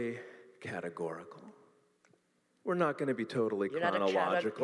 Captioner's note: laughing